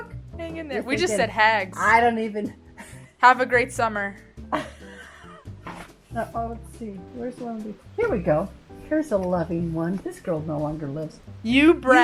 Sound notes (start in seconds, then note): 4.5 laughs